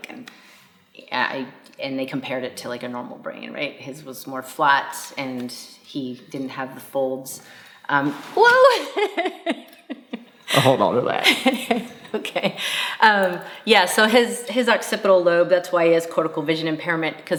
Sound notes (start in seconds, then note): 8.5 laughs